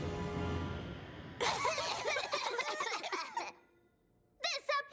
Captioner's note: coughing